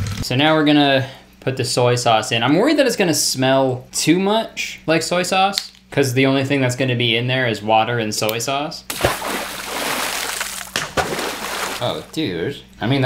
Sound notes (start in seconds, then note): 8.9 water splashing